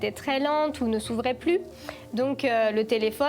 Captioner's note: none